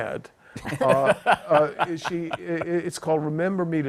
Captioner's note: laughter